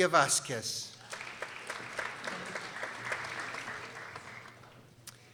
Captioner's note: people applauding